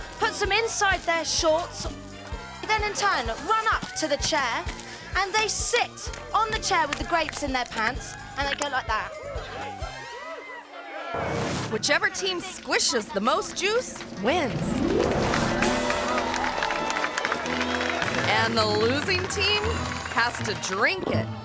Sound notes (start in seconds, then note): 9.6 bright music continues; 9.6 spectators cheering; 14.4 spectators cheering and applauding